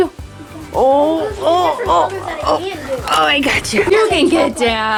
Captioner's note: grunting